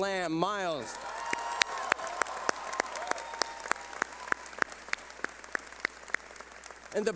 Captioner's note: clapping